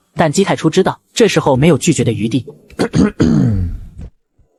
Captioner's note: coughing violently